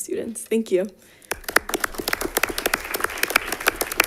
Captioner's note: applause